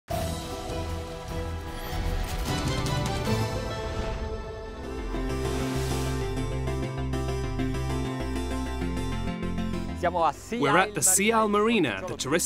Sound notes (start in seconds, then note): 1.7 upbeat music; 5.5 light music; 10.2 foreign speaker